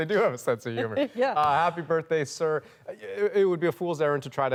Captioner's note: laughter